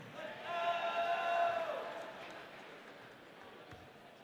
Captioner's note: audience cheering